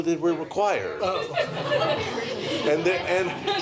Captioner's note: laughter